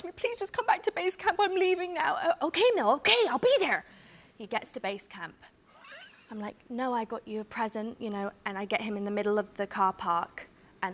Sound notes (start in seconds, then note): 4.4 normal voice